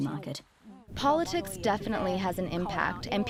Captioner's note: through translator